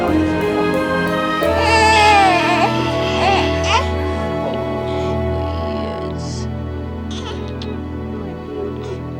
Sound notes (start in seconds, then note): 1.4 baby crying